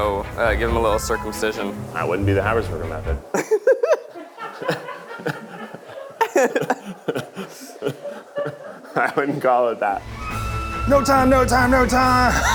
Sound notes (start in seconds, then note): 3.3 laughs